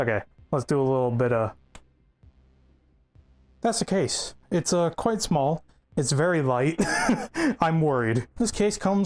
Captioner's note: snap